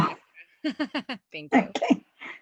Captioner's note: giggles